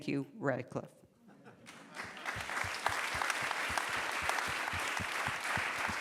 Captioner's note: applause